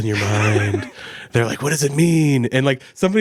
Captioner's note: laughs